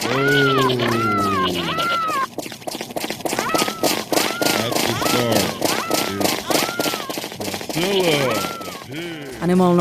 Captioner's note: animal noises, stomping, low mumbling